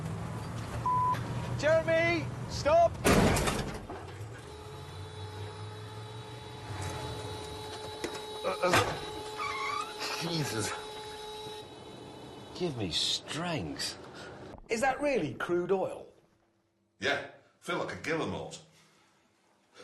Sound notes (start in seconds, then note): 3.1 crash!; 4.7 dashboard alarm; 9.0 popping